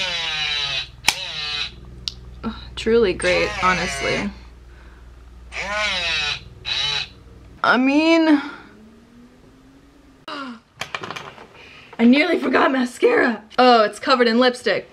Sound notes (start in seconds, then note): 11.5 gasps